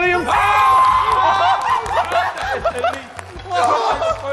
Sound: JJ screaming

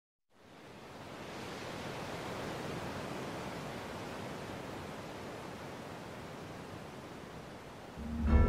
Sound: waves

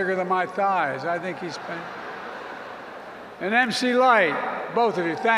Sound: laughter

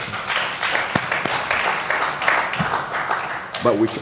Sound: applause

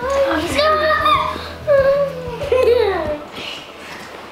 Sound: giggles; squeaks

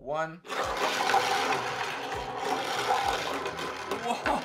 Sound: steel marbles rolling

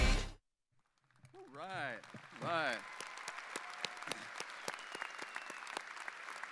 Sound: audience applauding

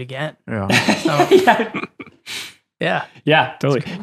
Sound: all laughing

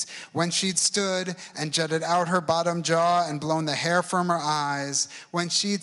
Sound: none

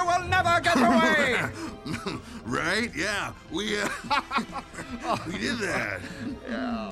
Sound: chuckles

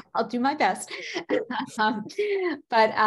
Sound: chuckles

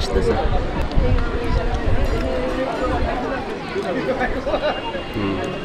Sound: crowd

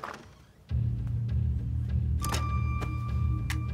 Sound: door opens; door shuts; suspenseful music

